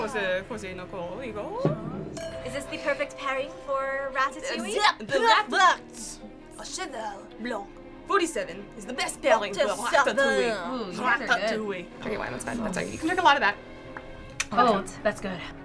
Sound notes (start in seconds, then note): 2.1 glasses clink; 10.5 speaking french